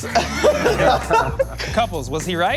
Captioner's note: laughing